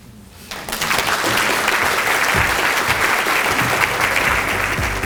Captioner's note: audience applauds; bright instrumental music